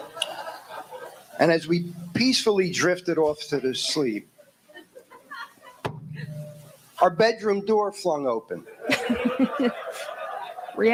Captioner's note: knocking sound